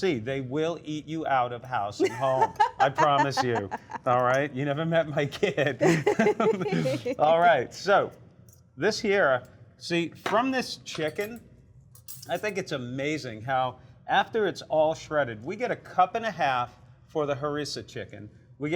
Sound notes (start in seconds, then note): 5.4 laughs